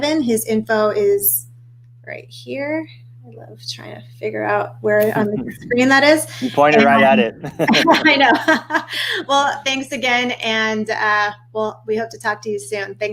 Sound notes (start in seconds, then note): 7.7 laughing